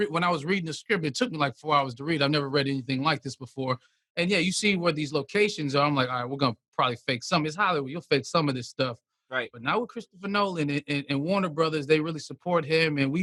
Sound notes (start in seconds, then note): none